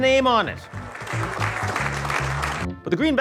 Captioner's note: attendees applauding